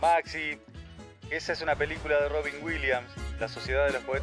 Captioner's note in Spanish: Voz en off